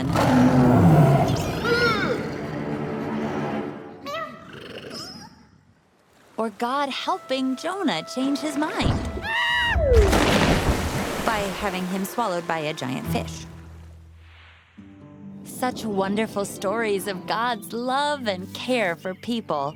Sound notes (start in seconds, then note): 0.0 growling; 0.0 moaning; 4.9 squeaking; 9.1 screaming